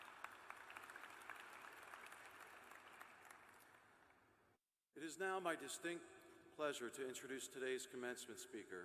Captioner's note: applause